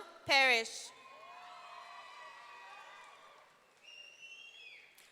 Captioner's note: audience cheering